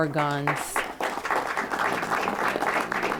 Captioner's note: applause